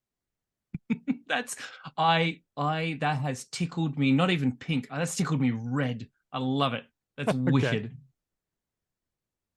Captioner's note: laughs